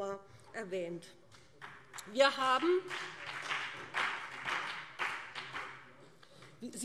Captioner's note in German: Beifall BÜNDNIS 90/DIE GRÜNEN und CDU